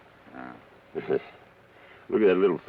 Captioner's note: Carney chuckles